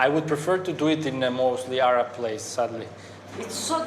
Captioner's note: speaks foreign language